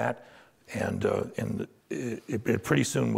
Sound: stammering

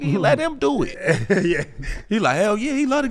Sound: laughs

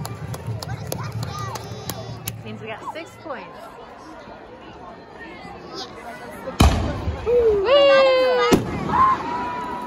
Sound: firecracker explosion

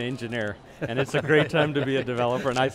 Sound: hosts laugh

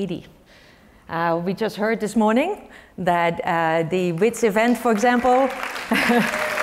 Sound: applause; laugh

